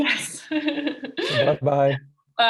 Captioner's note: laughs